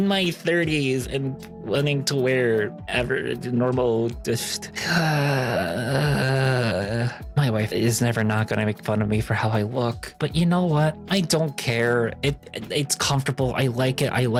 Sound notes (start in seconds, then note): 4.7 groaning